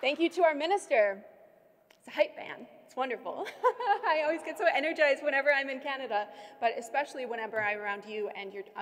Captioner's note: laughter